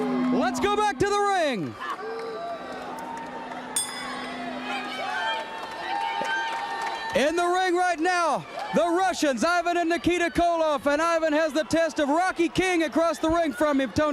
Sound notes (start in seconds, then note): 1.9 crowd chatter; 7.9 bell ringing; 9.4 crowd cheering